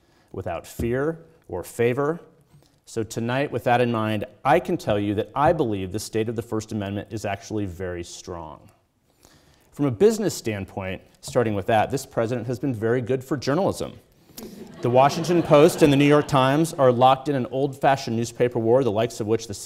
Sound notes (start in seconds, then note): 14.4 audience laughing